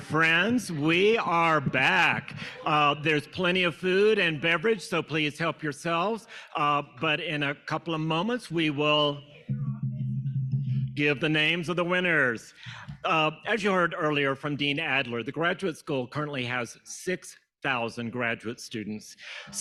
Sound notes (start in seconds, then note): 9.2 fingers tapping